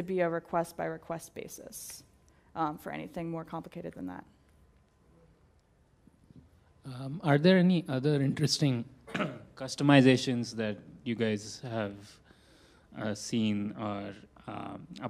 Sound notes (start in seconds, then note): 9.0 cough